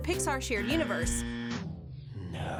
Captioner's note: buzzing